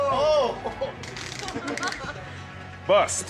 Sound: tape measurer clicks

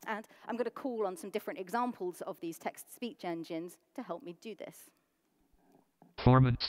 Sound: computer voice

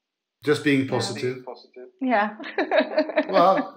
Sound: laughs

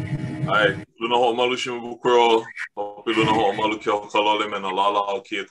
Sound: speaks in native language

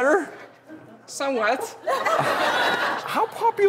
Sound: audience laughs

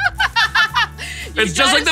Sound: laughing

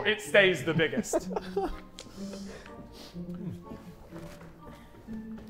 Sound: Sidemen laughing

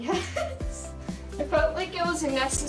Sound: chuckles

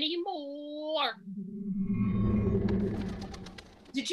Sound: magical wind & feathers flapping

